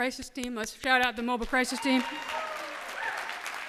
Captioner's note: cheers and applause